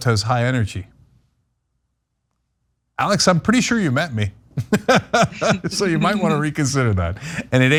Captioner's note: laugh